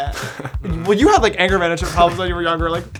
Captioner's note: brother laughs